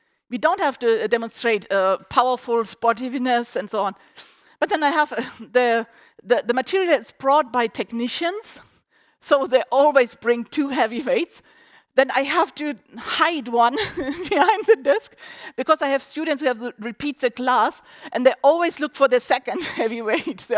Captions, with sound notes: We don't have to demonstrate powerful sportiness and so on. But then I have... the material is brought by technicians and they always bring two heavy weights. Then I have to hide one behind the desk [laughs]. Because I have students who repeat the class and they always look for the second weight.